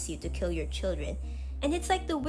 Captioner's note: deep inhale